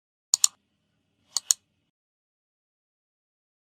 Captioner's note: mouse clicking